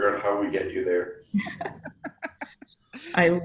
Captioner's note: laughs